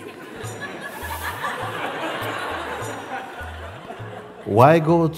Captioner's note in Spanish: risas